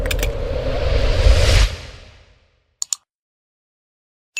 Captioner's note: whooshing; keyboard clicking